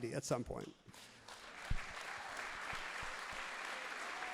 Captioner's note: audience claps loudly